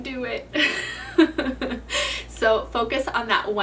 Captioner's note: laughs